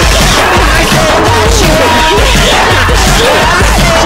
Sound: distortion disortion

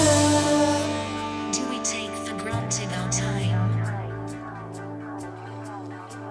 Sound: robotic Voice

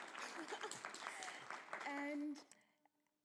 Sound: Lana laughs

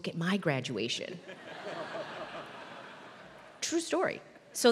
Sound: laugh

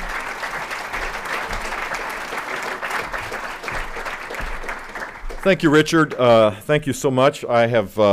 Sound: applause

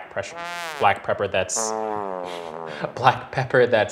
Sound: horn blowing

